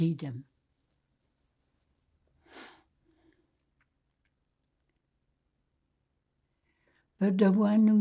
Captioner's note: pauses 6 seconds